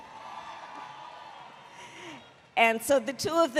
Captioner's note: applause